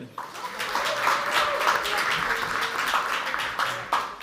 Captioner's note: audience applauds